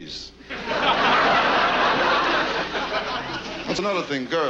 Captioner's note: audience laughs